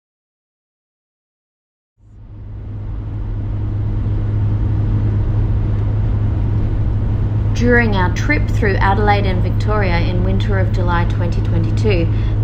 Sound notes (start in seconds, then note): 2.4 low level road noise fades in